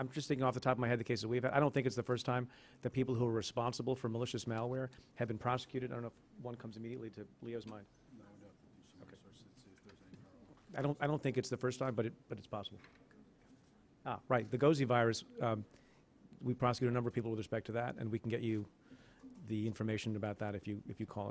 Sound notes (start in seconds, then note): 14.0 whispers